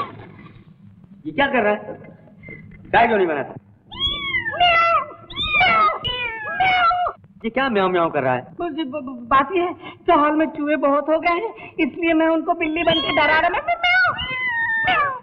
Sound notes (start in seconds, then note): 3.9 cat meow; 3.9 imitating cat meow; 13.9 cat meow